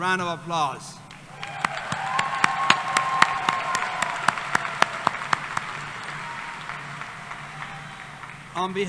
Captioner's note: applause